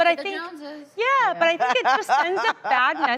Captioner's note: laughter